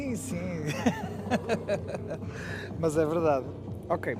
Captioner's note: laughter